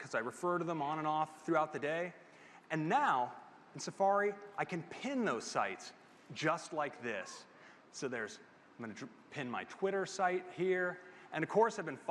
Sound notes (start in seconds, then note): none